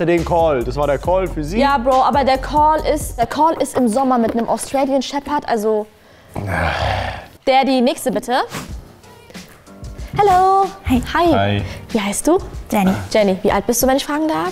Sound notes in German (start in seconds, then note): 6.3 Ächzen; 8.1 Lockere Musik